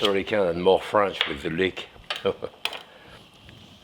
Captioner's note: chuckles